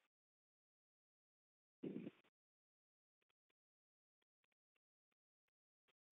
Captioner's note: silence